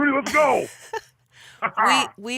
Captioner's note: laughs